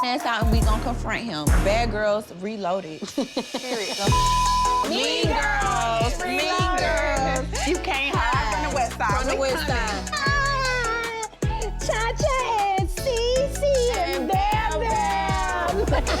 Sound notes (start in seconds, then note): 3.0 people laughing; 6.6 upbeat hip-hop music; 15.4 trio laughing